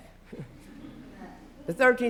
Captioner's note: laughter